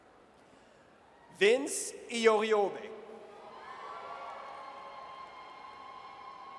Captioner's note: audience cheers